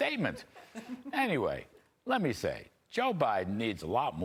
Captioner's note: laughter